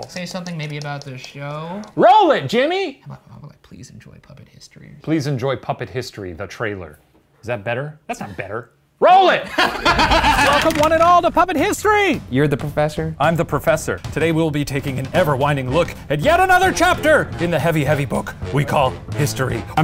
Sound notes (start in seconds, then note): 9.4 all laughing